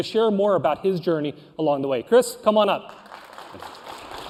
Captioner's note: applause